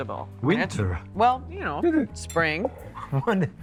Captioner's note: chuckles